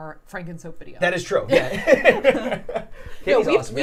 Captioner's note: laughs